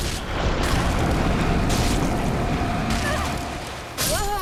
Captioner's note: fire roaring